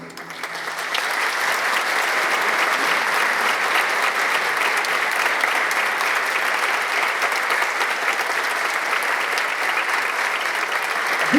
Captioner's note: applause